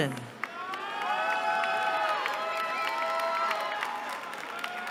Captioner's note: cheering